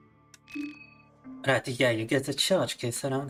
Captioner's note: speaking in Russian